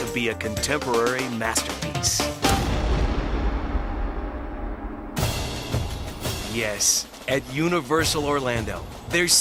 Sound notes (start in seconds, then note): 2.4 explosion booming; 5.2 dramatic music